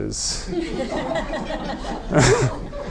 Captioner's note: audience laughing